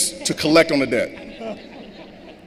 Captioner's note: laughter